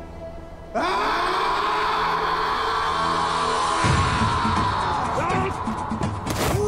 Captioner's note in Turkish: Haykırıyor